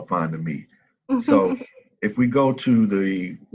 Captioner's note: laughing